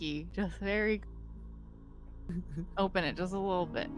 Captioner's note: Cornette chuckles